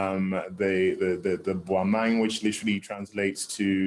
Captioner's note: non-english